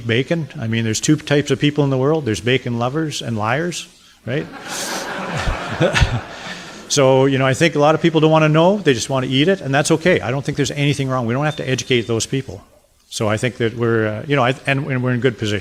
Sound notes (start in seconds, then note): 4.4 audience laughter